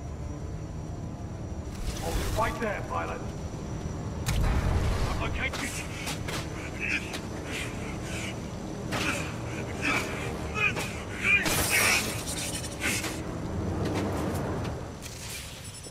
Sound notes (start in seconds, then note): 8.9 sounds of intense struggle